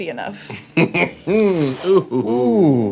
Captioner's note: laughing